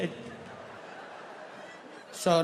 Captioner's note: audience laughing